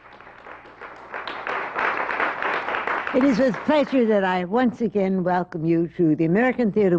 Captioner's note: applause